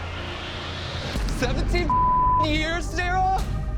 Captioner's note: beep